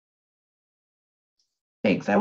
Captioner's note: silence